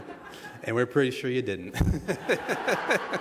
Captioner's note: laughter